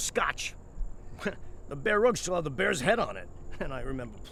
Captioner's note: chuckles